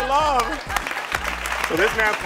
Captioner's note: audience applauding